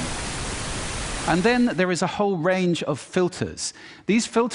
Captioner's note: static noise stops